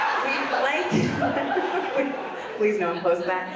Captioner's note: audience laughs; laughs